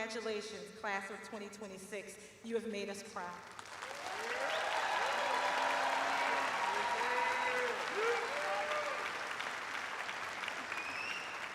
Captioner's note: cheers and applause